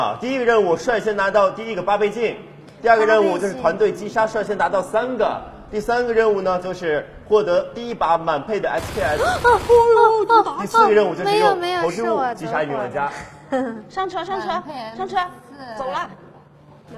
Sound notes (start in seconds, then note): 8.8 gasping at gunfires